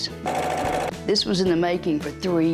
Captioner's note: sewing machine whirs